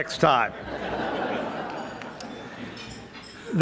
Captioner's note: audience laughing